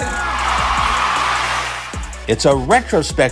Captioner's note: crowd Cheering